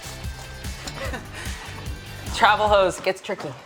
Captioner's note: bright rhythmic music; laughing